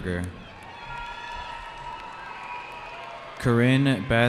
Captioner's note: cheering